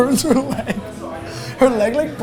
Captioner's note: both laughing